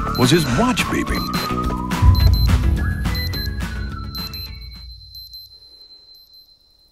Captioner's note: watch beeping